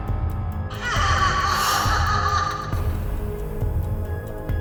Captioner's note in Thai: เสียงกรีดร้อง